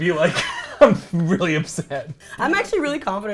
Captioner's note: laughs